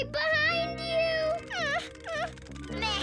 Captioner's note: Max whines